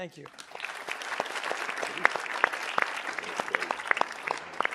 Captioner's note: audience applauding